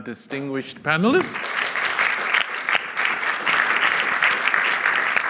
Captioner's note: applause